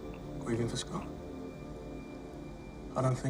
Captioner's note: none